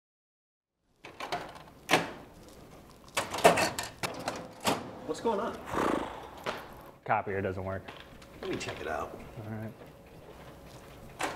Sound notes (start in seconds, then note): 2.1 printer doors slamming; 5.6 huffs